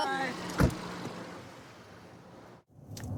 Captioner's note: car door closes